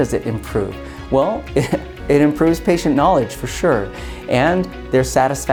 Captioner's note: chuckles